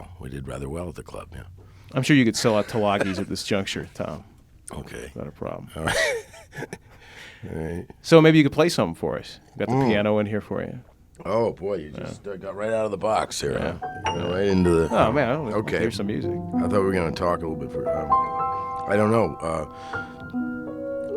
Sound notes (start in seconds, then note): 5.8 laughing; 13.9 piano sounds